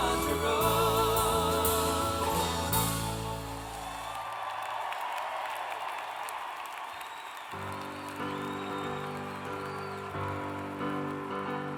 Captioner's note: cheers and applause